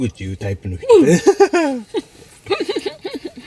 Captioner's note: laughs